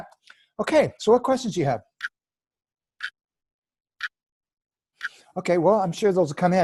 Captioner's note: clock ticking & silence